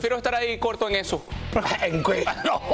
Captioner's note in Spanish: risas